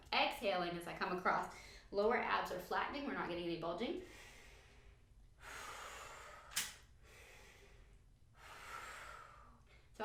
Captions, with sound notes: exhaling as I come across, lower abs are flattening. We're not getting any bulging. (inhaling and exhaling)